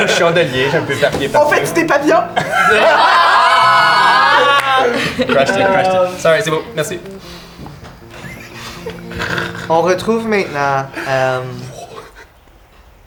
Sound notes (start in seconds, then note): 2.0 the group laughs; 8.0 stifled giggling